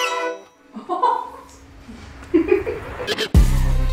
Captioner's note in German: Die Mutter lacht begeistert